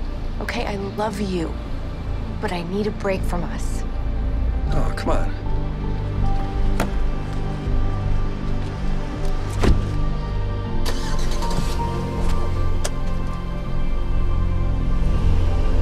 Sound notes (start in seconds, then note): 6.0 solemn music; 10.8 engine ignites, revs